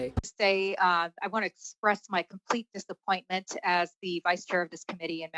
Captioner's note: speaking French